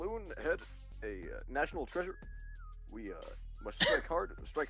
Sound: Benry coughs

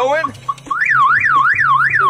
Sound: movie mobile alarm beeping in pain

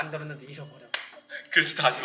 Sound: clap

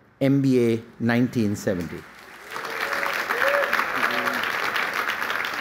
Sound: applause

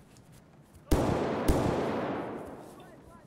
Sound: boom boom

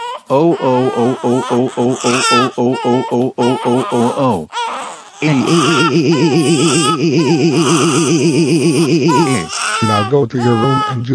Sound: coughing and trying to avoid being stomped on

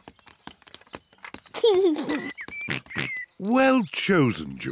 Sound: giggles

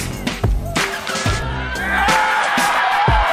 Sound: crowd cheers

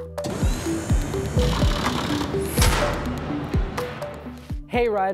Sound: upbeat music continues; gears rattling

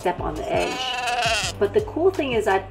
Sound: goat bleats

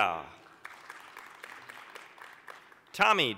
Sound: applause

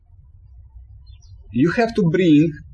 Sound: birds chirping

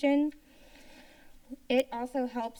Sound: inhales

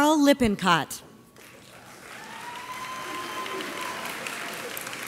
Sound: audience applauds

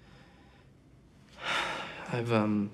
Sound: sighs

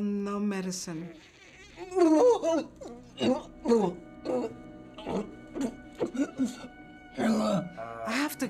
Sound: retching

